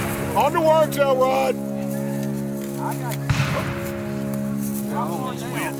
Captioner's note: guns fire